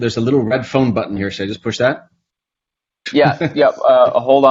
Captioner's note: laughs